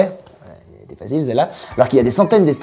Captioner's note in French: petite voix